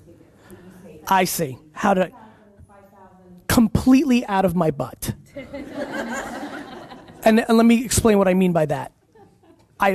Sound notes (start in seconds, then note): 5.4 audience laughs